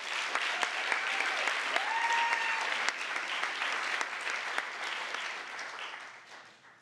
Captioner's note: applause